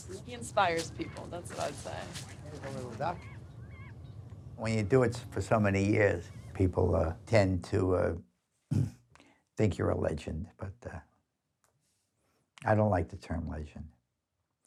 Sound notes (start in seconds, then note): 8.7 clears throat